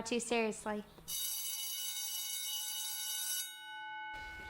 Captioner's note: bell ringing